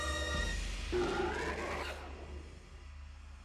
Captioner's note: Bigfoot roaring